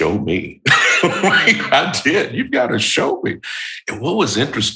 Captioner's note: chuckle